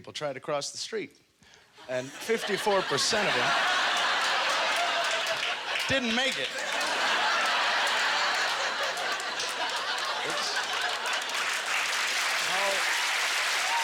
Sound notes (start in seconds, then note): 3.9 audience laughter; 10.3 cheers and applause